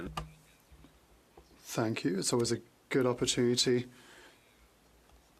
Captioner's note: speaking French